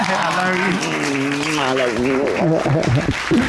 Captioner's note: chuckles